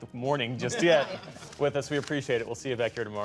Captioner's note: laughter